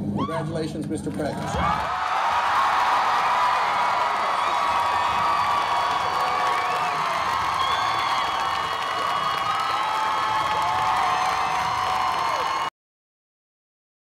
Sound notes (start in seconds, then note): 1.6 cheering